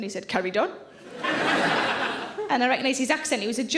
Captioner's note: audience laughs